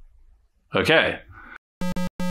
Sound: pc speaker noises going berserk

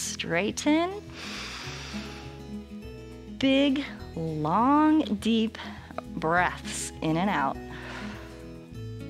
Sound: inhales; exhales

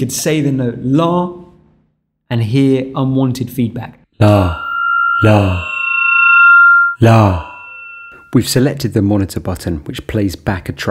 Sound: says "La" and we can hear feedback noise

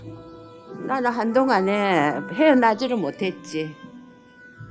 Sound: speaking foreign language

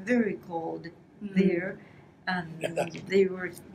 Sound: foreign language

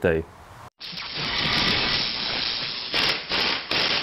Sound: drilling sounds

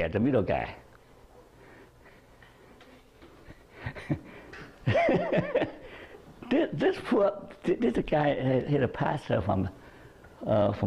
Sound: chuckles

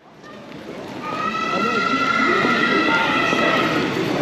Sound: crowd chattering

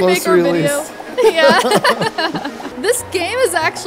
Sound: laughs

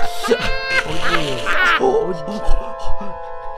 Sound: mexicans laughs forever

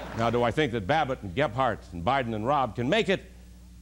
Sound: laughter

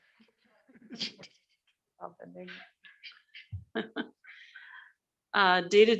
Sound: chuckling

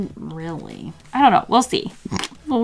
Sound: laughs

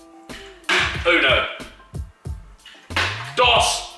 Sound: foreign language

